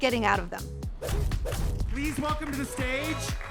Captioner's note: upbeat music; text and graphics whoosh